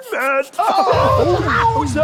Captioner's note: laughter